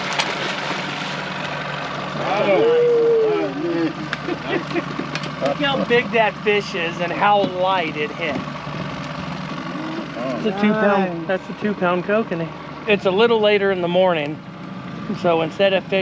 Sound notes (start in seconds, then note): 0.0 fish splashing; 3.7 chuckling; 3.7 whooping; 12.9 boat engine idling